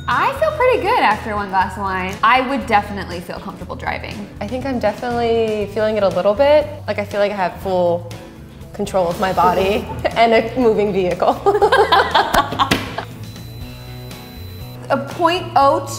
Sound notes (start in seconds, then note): 0.0 bell dings; 11.5 both laughing